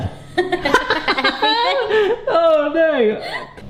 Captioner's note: both laugh